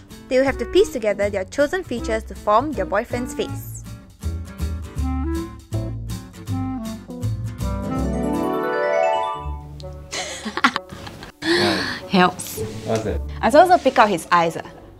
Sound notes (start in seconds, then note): 10.2 awkward Laughs